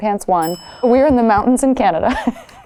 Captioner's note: bell dings; Blake chuckles